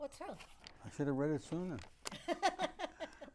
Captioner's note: laughing